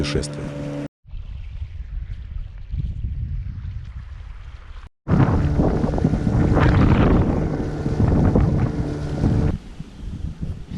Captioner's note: wind